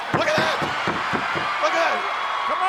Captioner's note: audience cheers